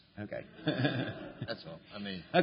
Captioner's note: laughter